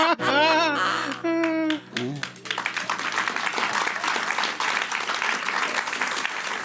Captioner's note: laughter; audience applauding